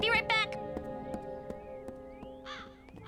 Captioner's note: bird cawing